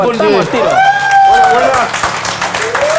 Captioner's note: cheers and applause